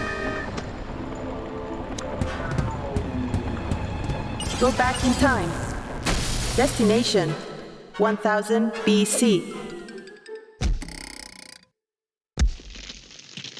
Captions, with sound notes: (angelic music) (suspenseful music) (robot voice) GO BACK IN TIME. DESTINATION...1,000 B.C. (boing) (cracking noise)